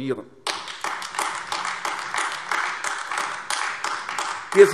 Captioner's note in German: Beifall AfD